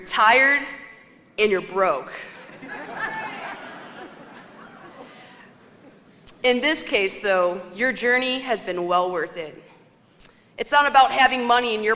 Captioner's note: laughter